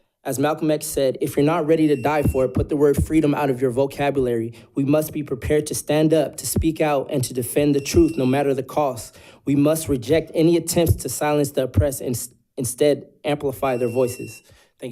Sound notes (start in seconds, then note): 7.8 buzzer buzzing